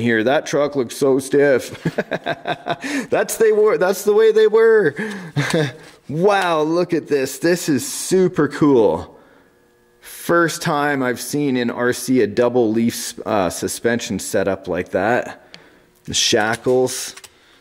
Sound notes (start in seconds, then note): 1.7 laughs; 5.3 laughs